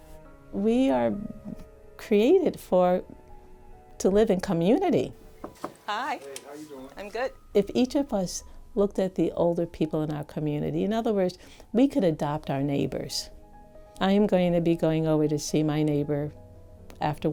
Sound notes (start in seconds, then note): 5.4 knocks